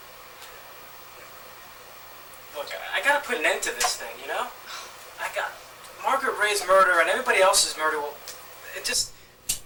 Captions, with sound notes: Look, I got to put an end to this thing, you know! [Angry Sigh] I got Margaret Ray's murder and everybody else's murder